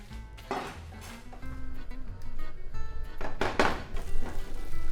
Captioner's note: pan sizzling